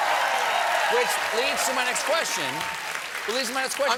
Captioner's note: cheers and applause